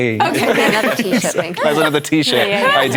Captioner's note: laughter